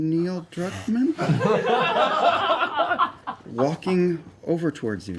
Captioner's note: laughter